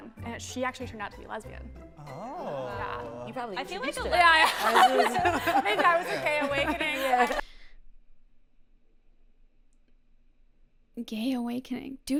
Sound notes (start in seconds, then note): 4.1 laughter